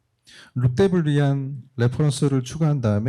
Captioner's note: speaking korean